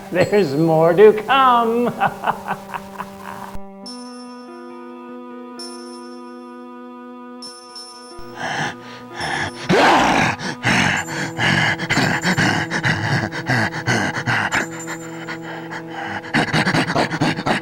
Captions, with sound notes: There's more to come! (laughs) (inmate breathes heavily)